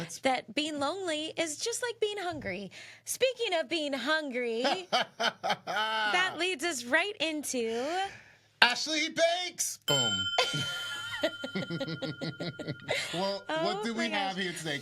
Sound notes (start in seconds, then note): 4.6 laughs; 10.4 both laughing